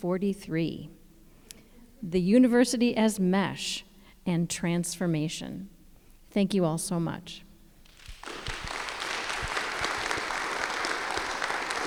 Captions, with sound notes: the university as mesh, and transformation. Thank you all so much. (audience applauds)